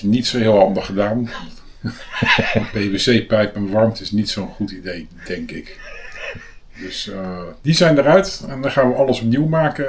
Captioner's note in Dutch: gelach; gelach